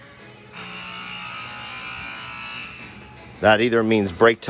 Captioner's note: buzzer ringing